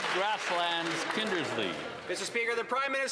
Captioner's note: some Applause